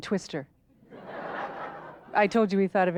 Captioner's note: audience laughter